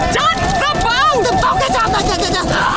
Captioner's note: gasping